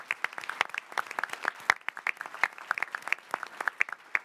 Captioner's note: applause